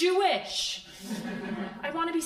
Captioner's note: crowd laughing